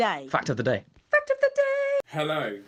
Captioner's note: male Voice